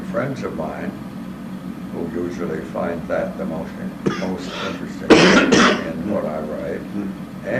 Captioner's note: cough